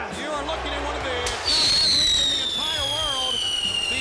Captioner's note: fireworks whistling